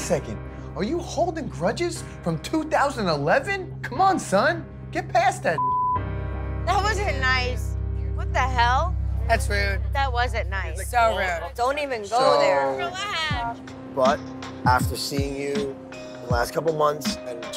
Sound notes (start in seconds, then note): 5.6 beep